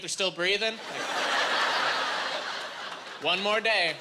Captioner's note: laughing